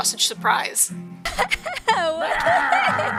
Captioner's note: laughs; sausage growls